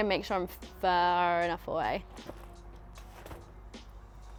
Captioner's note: umbrella opens